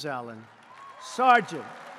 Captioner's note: applause